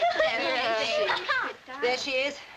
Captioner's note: laughter; indistinct chattering